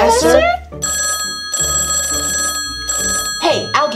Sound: phone ringing

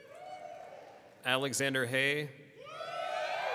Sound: people cheering

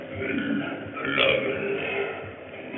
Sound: grunts

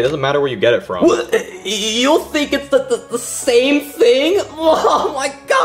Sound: stuttering; exclaims

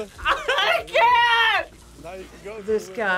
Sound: laughs

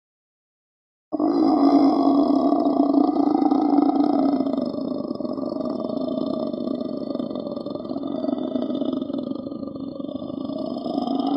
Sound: killer roar

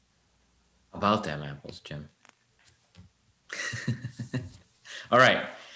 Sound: laughing

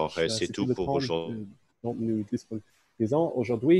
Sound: speaking in French

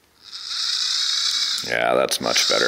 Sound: motorized chain sound

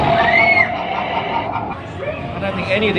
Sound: screaming

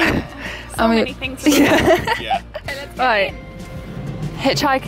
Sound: laughs

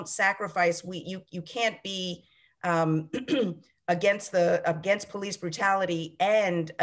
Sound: clears throat

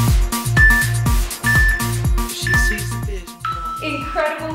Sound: beeping sound

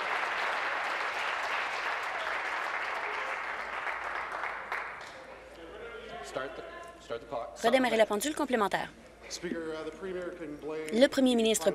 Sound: applause

